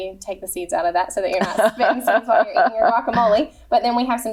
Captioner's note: laughs